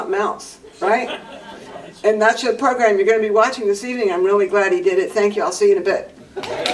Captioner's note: applause